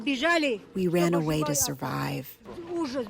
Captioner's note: through translator